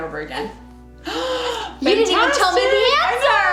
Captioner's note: gasp